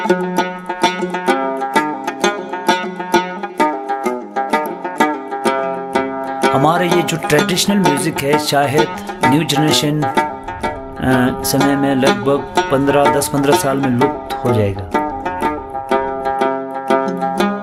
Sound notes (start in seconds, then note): 6.8 speaking in a foreign language